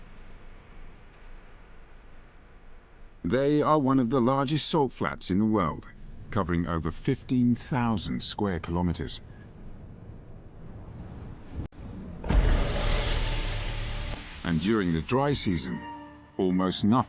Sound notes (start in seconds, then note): 7.7 wind whooshing; 11.8 dramatic music